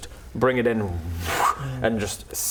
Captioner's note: whoosh